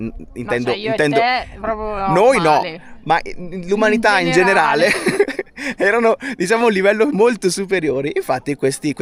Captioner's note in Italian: risate